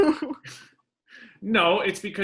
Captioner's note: laughing